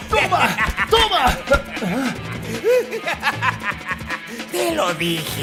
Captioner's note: laughter